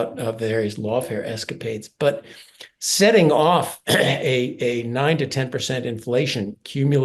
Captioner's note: cough